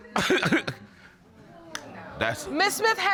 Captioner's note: chuckles